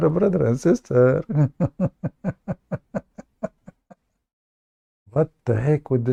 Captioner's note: Ketawa